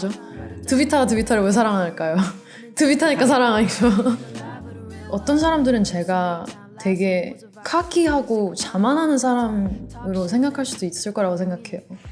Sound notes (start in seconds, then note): 3.1 laugh